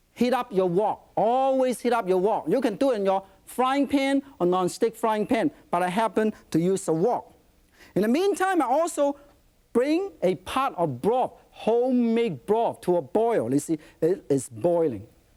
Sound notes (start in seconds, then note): none